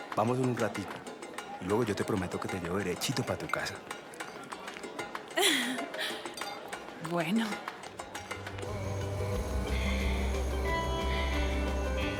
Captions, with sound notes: we'll go just for a little while and then I promise I'll take you straight home. [giggling] Ok. [dance music continues]